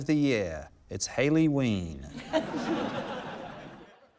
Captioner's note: laughter